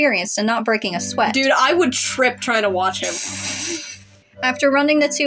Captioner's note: snickering Sigh